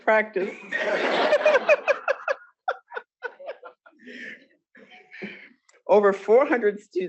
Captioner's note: laughter